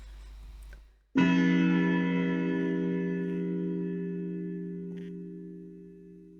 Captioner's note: clock chimes